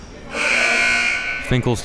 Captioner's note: buzzer buzzing